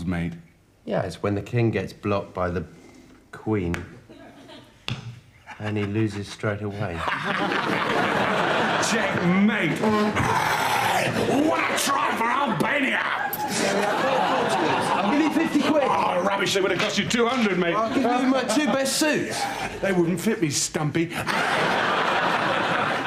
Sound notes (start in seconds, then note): 7.0 laughs; 9.6 cheers; 13.1 audience laughs; 21.1 audience laughs